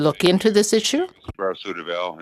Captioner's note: speaking French